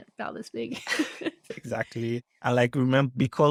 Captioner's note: laughter